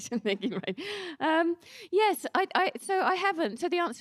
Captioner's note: laughs